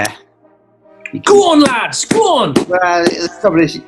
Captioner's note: clapping